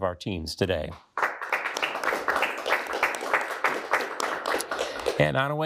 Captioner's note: audience applauding